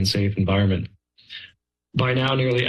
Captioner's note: pause